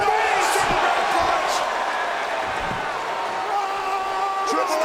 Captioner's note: audience cheers